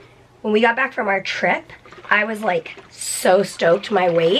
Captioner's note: none